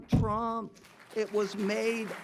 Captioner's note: audience clapping